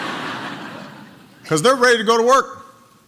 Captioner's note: laughter